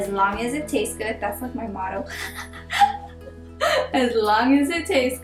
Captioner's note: chuckles